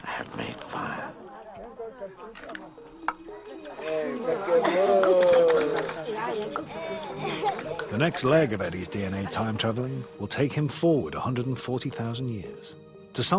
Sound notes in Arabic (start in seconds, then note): 2.5 بالثرثرة بلغة أجنبية; 3.7 التصفيق المجموعة